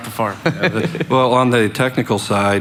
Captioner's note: laughing